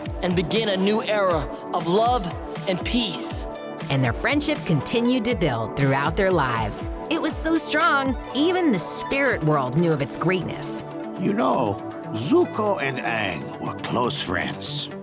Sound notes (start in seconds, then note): none